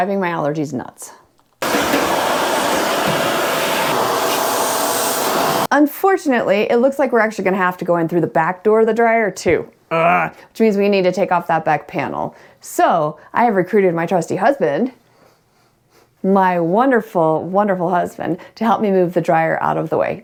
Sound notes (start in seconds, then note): 1.6 loud rumbling; 9.9 grunts